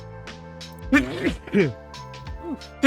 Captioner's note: sneeze. Ew